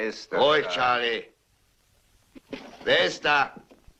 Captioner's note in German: Geklapper